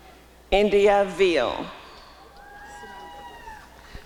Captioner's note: applause and cheering